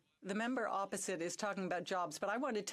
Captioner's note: speaking French